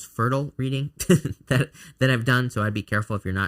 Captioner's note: chuckling